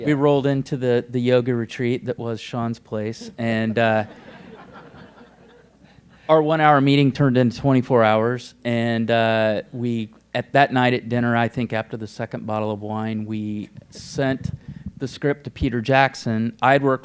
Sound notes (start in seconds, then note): 3.6 laughter